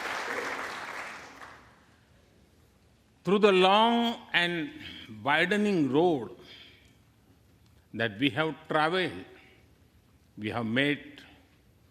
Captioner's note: applaus